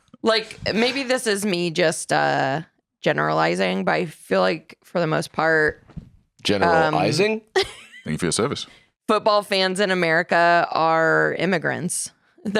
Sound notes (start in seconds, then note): 7.5 laughs